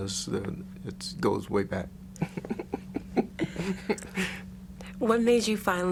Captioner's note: laughs